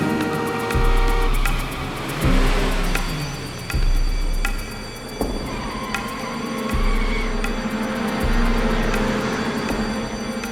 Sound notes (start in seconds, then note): 0.0 suspenseful music; 0.0 horn blowing; 3.5 alarm wailing